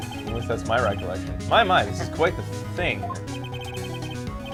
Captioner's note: laughs